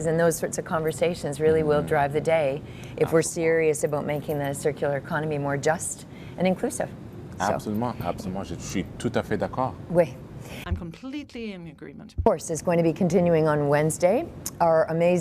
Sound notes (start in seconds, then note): 12.4 speaking in French